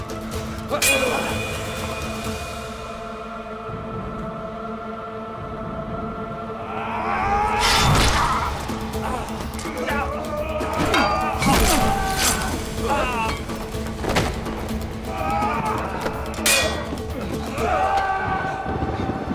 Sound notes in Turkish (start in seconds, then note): 0.6 Kılıç sesi; 9.4 Savaş sesleri